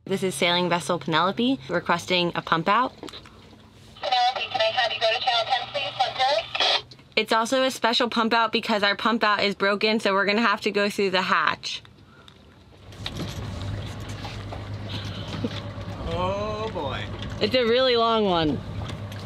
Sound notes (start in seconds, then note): 4.4 woman On Radio